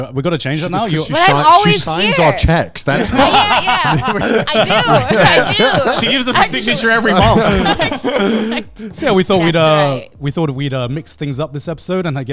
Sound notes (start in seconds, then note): 4.0 all laughing; 7.5 men laughing